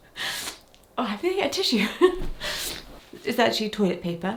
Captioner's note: chuckles